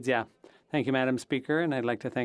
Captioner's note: speaking French